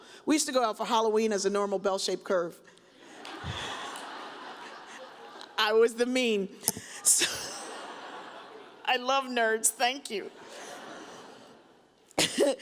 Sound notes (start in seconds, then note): 3.0 audience laughs; 7.8 laughs